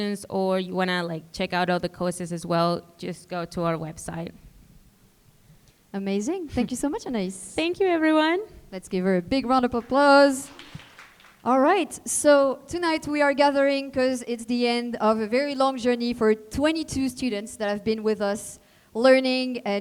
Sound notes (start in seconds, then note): 9.4 audience clapping